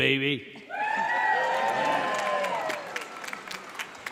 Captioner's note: audience cheers